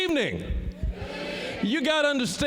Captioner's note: shouting; audience shouting